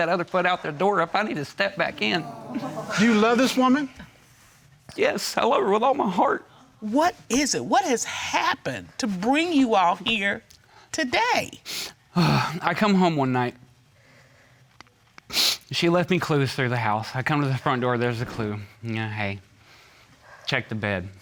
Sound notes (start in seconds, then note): 12.2 sighs; 15.3 sniffles